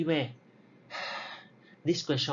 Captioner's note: sigh